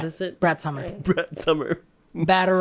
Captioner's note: chuckling